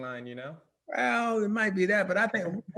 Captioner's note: laughing